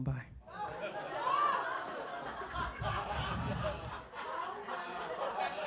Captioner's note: audience laughing